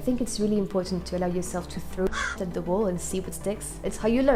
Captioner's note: raven caw